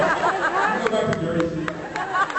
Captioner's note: laughs